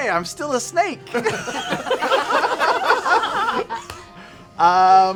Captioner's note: laughter